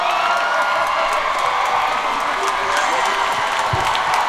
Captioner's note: audience cheering